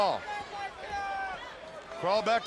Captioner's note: crowd yelling